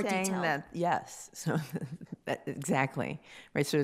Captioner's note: chuckles